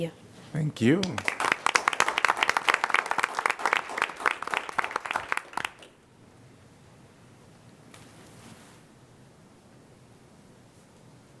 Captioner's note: applause